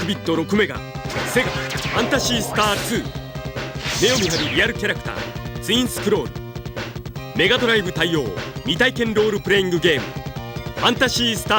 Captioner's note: game audio